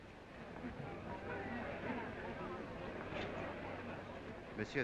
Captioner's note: crowd murmuring